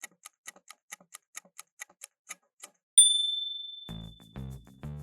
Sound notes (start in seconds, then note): 0.4 timer ticking; 3.0 ding!